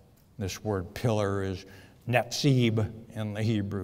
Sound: speaks foreign language

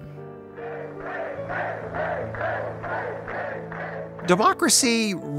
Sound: crowd chanting

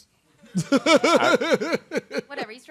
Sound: chuckling

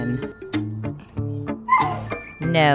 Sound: Aydan barks

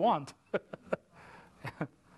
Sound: laughter

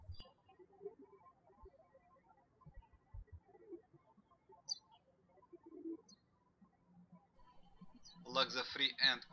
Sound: birds chirping

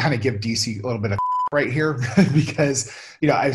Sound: beep

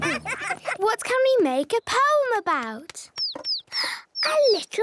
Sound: bird tweeting

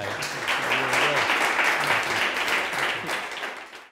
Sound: applause

